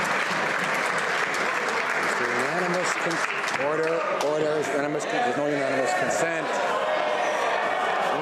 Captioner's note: some Applause